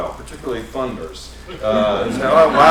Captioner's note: laughter